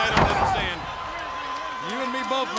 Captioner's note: body thudding; hands thudding